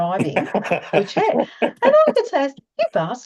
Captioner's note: is laughing